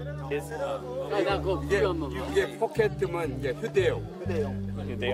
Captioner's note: speaking Korean